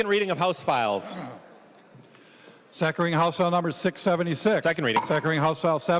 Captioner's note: gavel